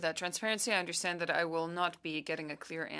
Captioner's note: speaking French